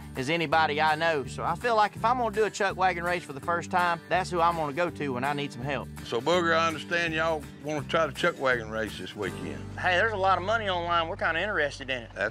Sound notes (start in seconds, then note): none